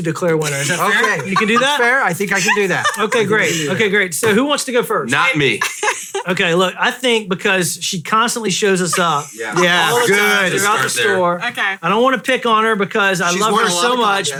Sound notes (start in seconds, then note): 5.2 laughing